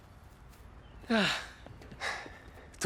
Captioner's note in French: Lee soupire